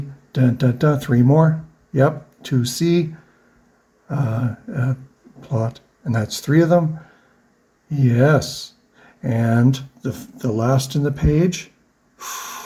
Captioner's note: inhales